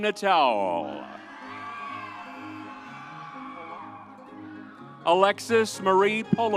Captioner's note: vibrant music continues; audience cheers